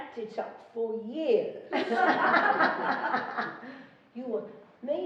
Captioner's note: laughing